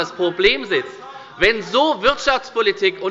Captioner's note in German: Zurufe von dem BÜNDNIS 90/ DIE GRÜNEN